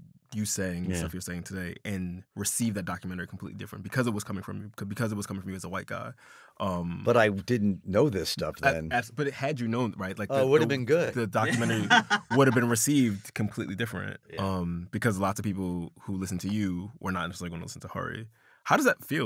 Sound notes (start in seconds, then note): 11.4 laughter